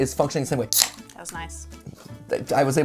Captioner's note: can crackle